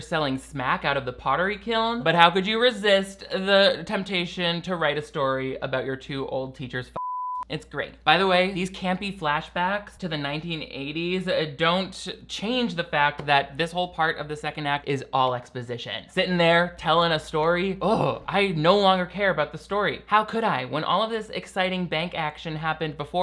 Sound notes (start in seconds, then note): 7.0 beeps